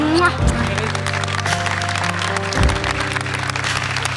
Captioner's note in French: acclamations